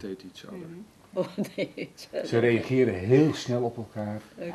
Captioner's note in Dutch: lacht